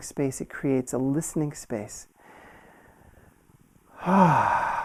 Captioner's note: exhales